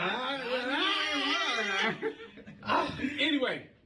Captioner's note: laughter